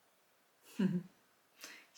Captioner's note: chuckle